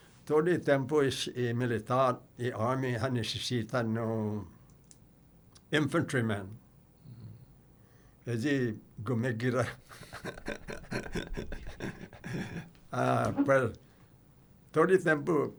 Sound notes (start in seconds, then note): 12.5 chuckling